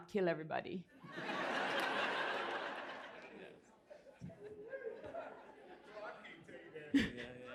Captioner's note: laughter